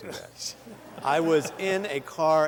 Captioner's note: laughter